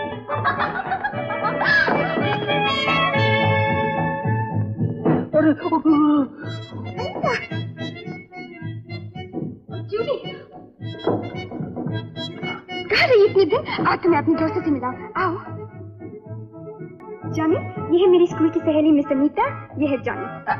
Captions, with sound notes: (Laughs) (Groans) Anita! Julie! Where have you been so long? Come, meet my friends My friend from school, Ms Anita. This is Johnny